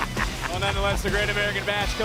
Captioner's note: laughs